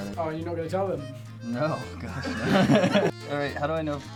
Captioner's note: laughs